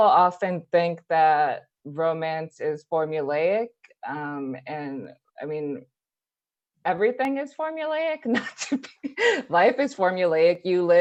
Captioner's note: laughs